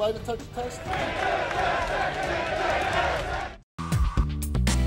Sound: audience jeering

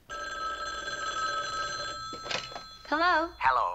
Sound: phone rings

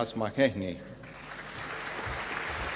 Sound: applause

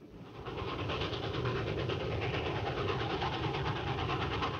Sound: train wheels clacking

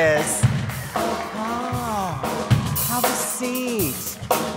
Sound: audience claps and cheers

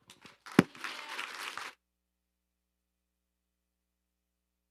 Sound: audience applauding

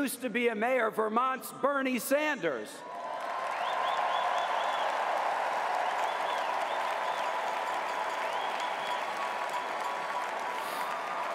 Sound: cheers & applause

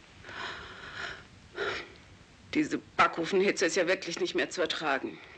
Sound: sighs

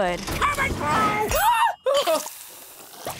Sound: shrieking

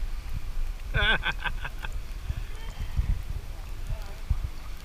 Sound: giggles

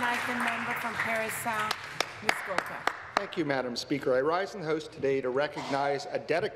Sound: applause

